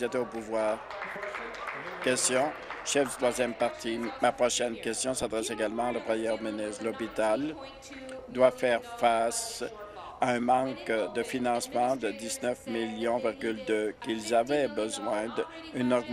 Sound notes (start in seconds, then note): 3.9 applause